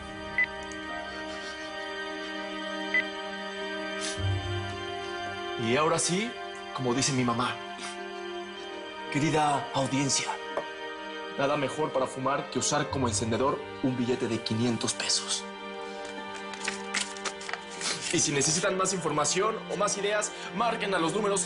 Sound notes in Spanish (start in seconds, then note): 0.3 Bip